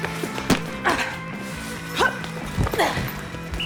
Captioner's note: bell dinging; women grunting; whistle blows